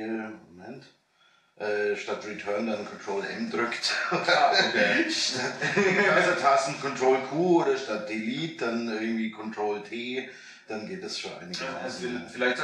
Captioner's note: laughing